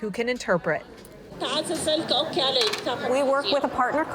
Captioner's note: speaking foreign language